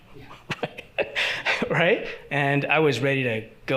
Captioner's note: chuckles